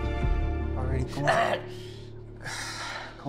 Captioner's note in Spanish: Quejido